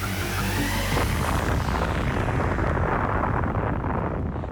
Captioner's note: explosion